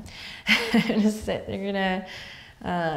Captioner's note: laughs